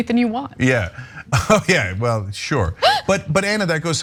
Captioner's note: laugh